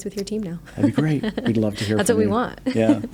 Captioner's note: laughs